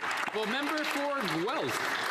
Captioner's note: speaking alternate language